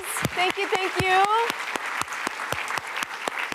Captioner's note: applause